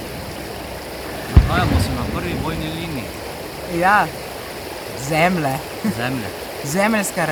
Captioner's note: cannon blast; cannon blasts